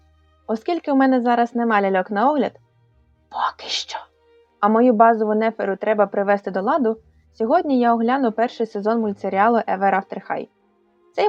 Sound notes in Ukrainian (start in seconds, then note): 3.4 шепіт